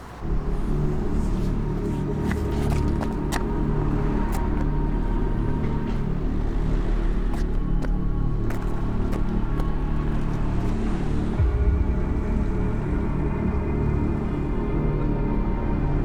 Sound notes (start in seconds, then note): 0.2 ominous music; 8.8 faint traffic noise; 12.5 ominous music